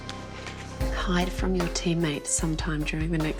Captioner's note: quietly